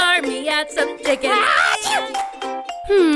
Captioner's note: sneezes